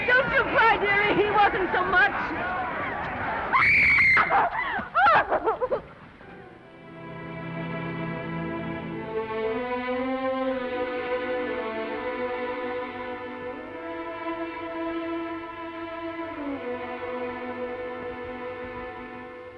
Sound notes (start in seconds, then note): 3.5 Esther screams; 6.5 somber music